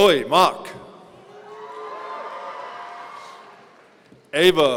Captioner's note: audience cheering